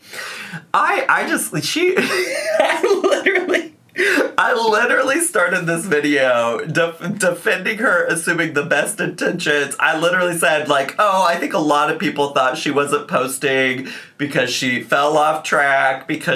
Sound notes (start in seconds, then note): 1.6 laughs